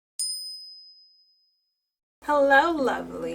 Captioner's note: bell chime